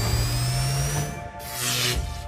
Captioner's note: zap